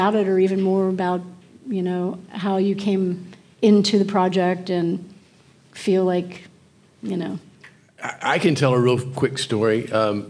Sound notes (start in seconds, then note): none